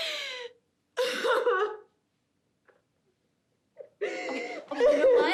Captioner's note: sobbing